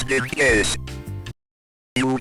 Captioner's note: music cuts